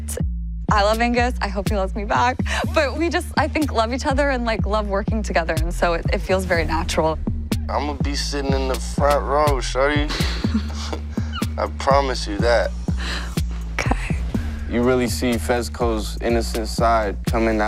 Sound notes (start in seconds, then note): 10.0 both chuckle